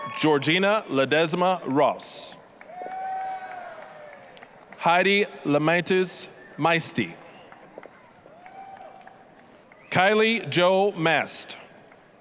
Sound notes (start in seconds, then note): 0.0 applause, cheering; 2.5 applause, cheering; 7.2 applause